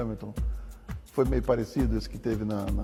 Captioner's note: speaking in Portuguese